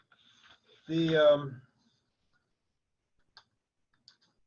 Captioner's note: papers rustling